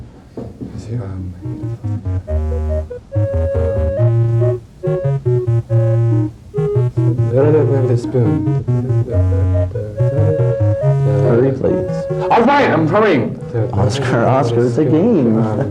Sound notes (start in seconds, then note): 12.4 yelling